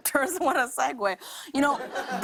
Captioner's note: laughter